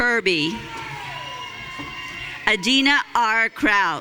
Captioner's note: audience cheering